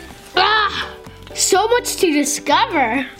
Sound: yells

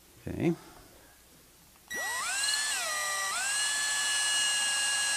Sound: drill whirring

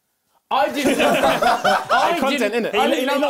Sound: both laughing

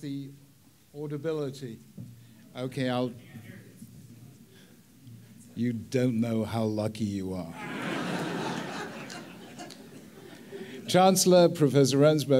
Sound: audience laughs

